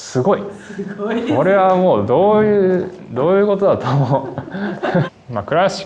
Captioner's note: laughs